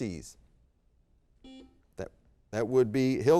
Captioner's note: buzzer beep